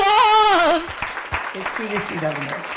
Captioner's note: audience applauding